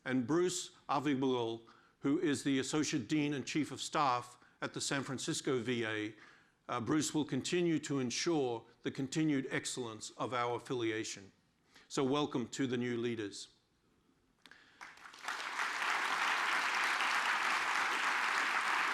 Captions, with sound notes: Bruce Ovbiagele, who is the associate dean and chief of staff at the San Francisco VA. Bruce will continue to ensure the continued excellence of our affiliation. Welcome to the new leaders. (audience applauds)